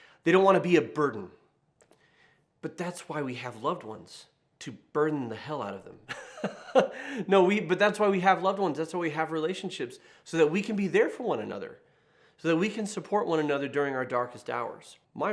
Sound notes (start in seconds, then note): 6.1 chuckles